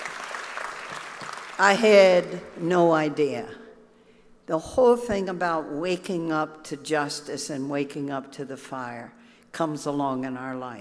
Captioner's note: applause